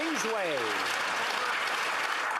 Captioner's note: applause